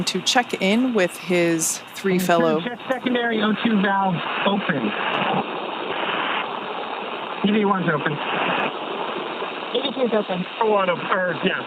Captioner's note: radio Chatter